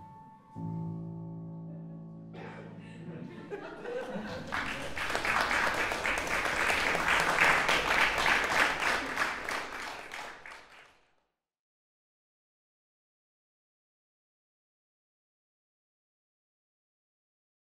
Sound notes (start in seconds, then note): 3.4 applause/laughter